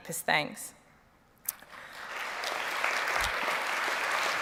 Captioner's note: applause